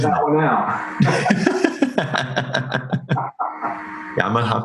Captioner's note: both laugh